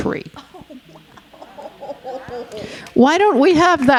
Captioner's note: audience exclaiming; audience applauding